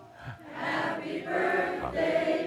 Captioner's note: chuckles